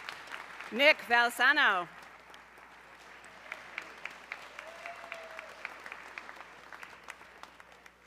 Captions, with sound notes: Nick Valsano, (audience cheering)